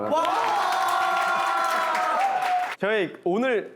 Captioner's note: A huge round of applause